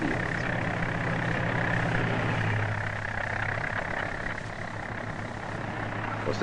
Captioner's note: plow sputtering